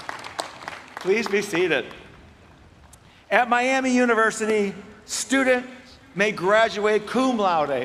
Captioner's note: applause